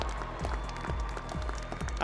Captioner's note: audience applauding and cheering